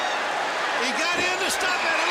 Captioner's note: crowd chatter